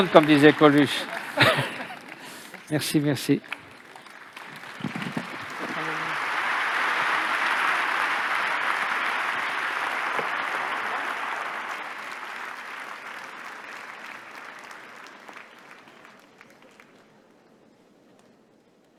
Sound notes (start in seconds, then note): 3.9 applause